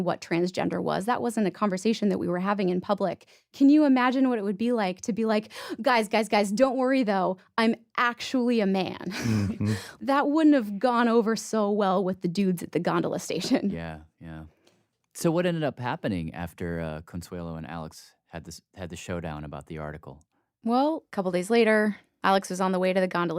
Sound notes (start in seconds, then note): 9.1 laughs